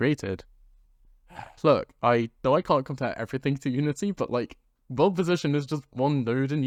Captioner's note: sigh